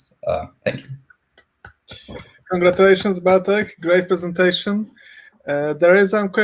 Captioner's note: clapping